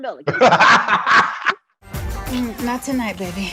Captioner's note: Mike laughing